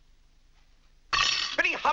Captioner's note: silverware clattering